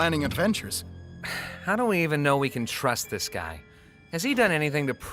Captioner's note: sighs